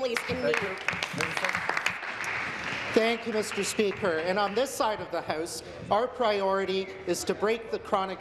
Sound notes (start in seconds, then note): 4.3 applause